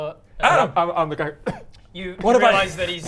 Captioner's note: cough.wav